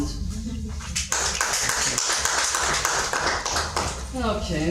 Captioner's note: audience clapping